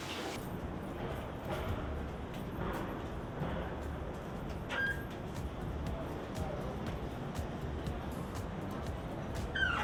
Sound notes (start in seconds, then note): 4.2 door squeaks